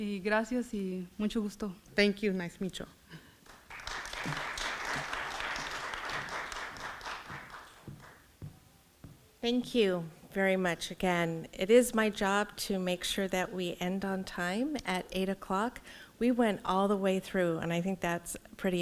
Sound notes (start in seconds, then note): 0.1 foreign language; 3.4 audience clapping